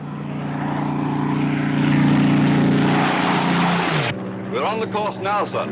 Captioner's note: aircraft roars